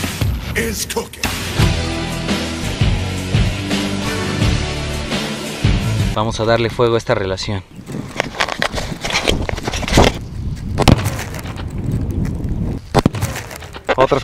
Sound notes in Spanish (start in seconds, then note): 7.8 pasos; 8.2 sonidos de la camara; 10.8 Explocion